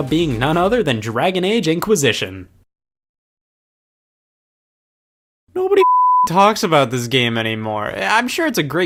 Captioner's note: beep